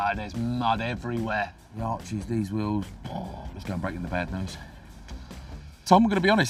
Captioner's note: sighs